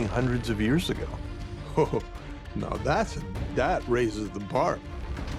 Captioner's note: chuckles